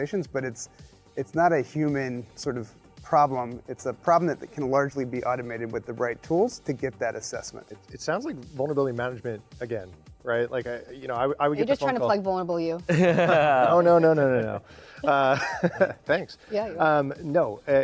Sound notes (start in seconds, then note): 12.9 laughing; 12.9 chuckles